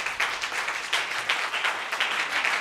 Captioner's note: crowd applauding